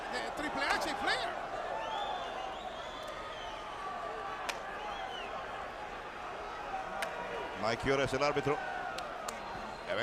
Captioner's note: applause